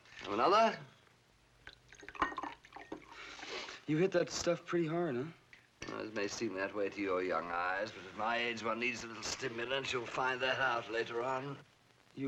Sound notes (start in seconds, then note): 1.6 liquid pours